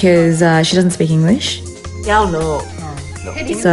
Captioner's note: speaks in chinese language